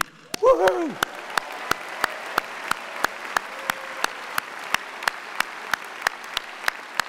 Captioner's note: and audience applauding